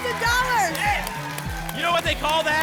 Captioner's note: applause and cheering